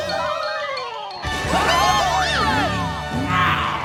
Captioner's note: cheering